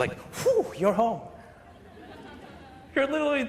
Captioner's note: laughter